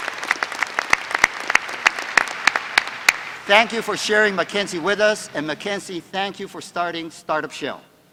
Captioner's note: applause